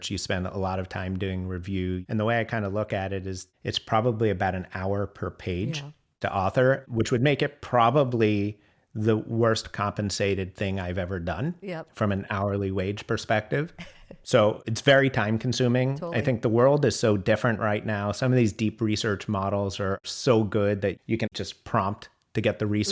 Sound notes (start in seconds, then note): 13.7 laughs